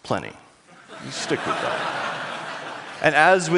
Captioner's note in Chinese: 笑聲